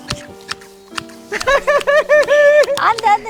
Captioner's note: both laughing